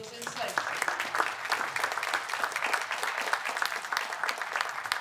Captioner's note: applause